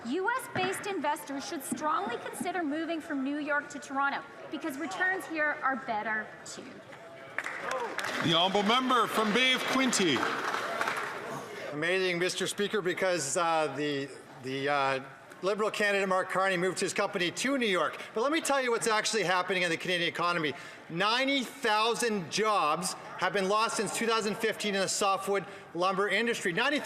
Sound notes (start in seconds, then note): 11.4 some Applause